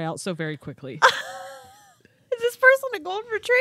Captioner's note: wheezing